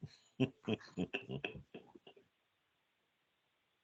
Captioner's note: laughs